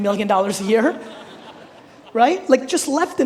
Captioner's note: all laughing